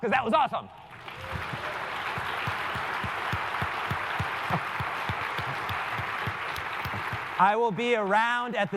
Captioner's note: applause